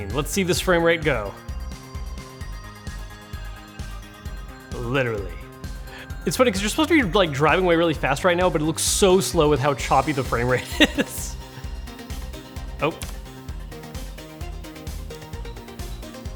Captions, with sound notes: - Shoot out scene, let's see this frame rate go. (upbeat techno music) Literally. It's funny, because you're supposed to be, like driving away really fast right now. But it looks so slow with how choppy the frame rate is. (chuckles) Oh!